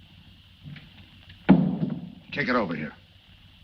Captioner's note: gun thuds